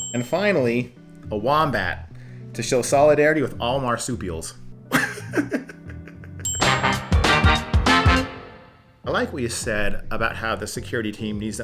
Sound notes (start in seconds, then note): 4.9 laughs; 6.5 bright upbeat music